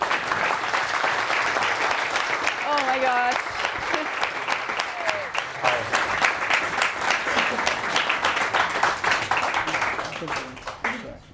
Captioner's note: applause